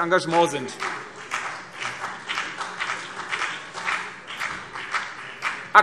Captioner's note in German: Vereinzelter Beifall CDU und BÜNDNIS 90/DIE GRÜNEN